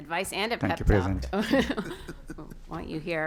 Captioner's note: laughter